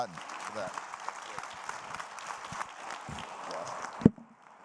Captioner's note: audience applauding